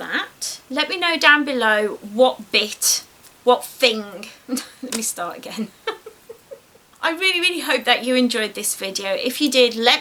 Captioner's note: giggles